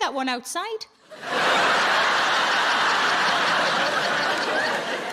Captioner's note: audience laughing